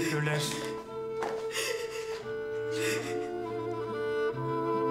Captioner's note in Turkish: Ağlıyor